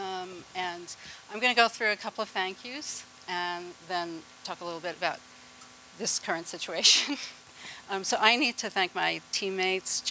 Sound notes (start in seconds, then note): 7.5 laughter